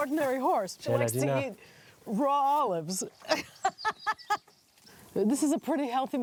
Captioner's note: laughs